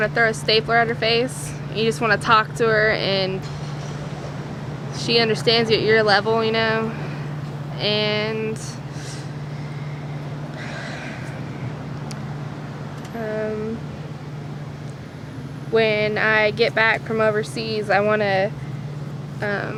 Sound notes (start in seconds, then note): 10.4 sighs